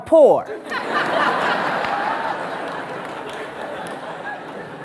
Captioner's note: audience laughs